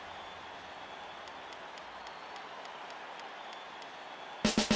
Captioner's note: crowds cheering